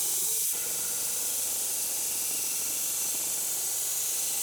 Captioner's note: saw whizzing